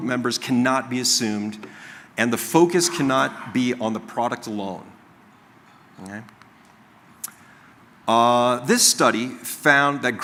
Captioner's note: coughing